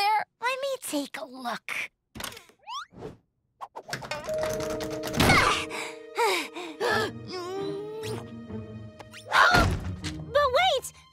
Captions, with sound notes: - Let me take a look. [doors rattling] - [panting] - [gasps] [whimpers] - Aah! - But wait!